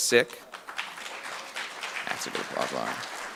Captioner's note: audience clapping